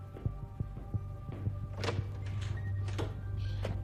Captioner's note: doooor opens